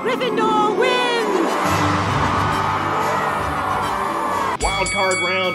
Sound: crowd cheering

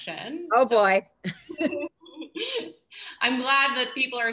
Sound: laughter

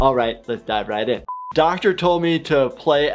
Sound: buzzer beeps

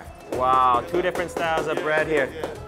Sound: pestle banging

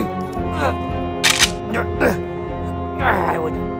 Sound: soldier cocks gun

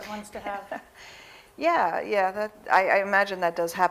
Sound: chuckles

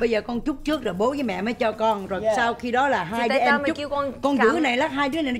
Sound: speaking foreign language

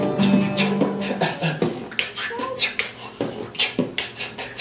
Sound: beat-boxing

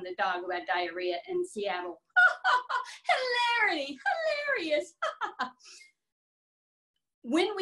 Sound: laughs

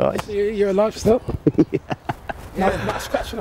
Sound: laughs

